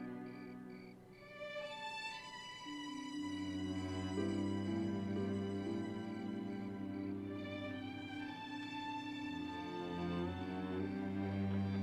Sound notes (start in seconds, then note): none